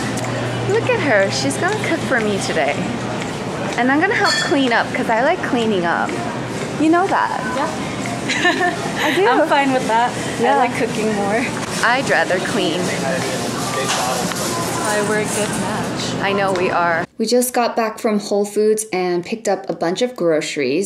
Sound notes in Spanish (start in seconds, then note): 8.2 risa